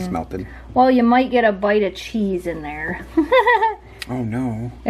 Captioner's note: laughs